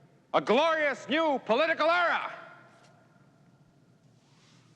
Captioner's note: none